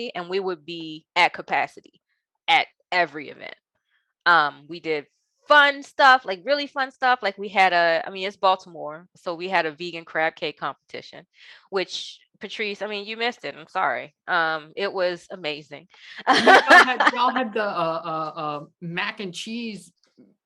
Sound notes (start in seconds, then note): 16.2 laughing